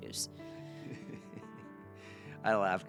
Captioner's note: chuckles